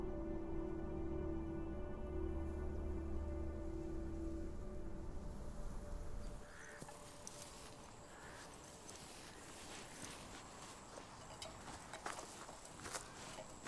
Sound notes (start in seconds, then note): 7.7 birds cawing